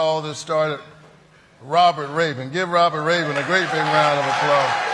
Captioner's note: applause